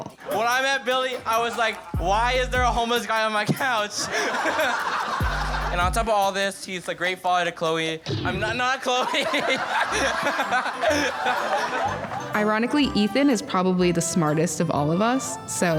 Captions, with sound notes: When I met Billy, I was like, "Why is there a homeless guy on my couch?" [LAUGHTER] And on top of all this, he is a great father to Chloe. Not Chloe... [LAUGHS] [ALL LAUGHING] Ironically, Ethan is probably the smartest of all of us, so...